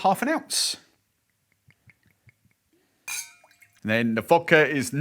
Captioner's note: liquid pouring